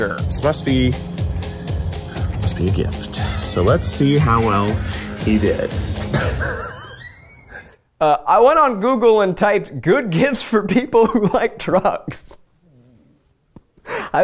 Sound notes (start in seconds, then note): 6.0 laughs; 13.3 laughs